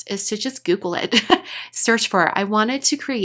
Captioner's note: laughs